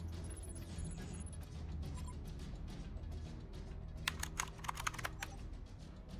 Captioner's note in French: le moniteur émet des bips et des vrombissements